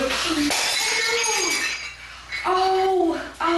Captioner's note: glass shatters